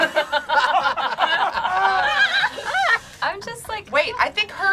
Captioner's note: group laughing